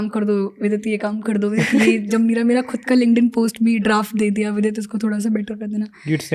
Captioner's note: speaks in Hindi